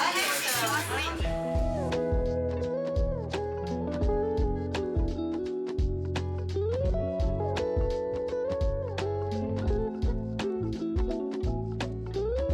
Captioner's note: CV in French